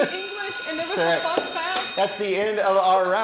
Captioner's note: school bell ringing